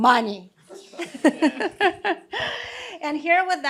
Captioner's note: laughter